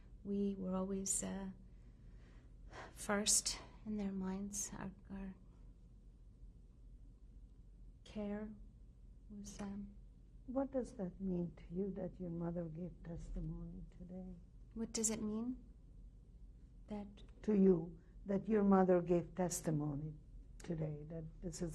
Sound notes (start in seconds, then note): 5.3 pauses for 3 seconds